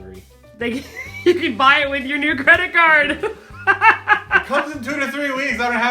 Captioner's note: laughing